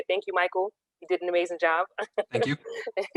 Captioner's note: chuckles